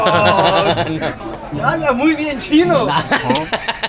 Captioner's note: Spanish